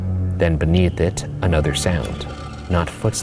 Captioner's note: creature growling